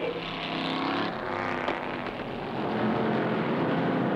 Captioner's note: engines revving